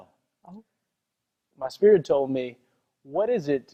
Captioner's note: none